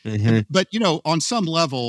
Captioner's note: laughs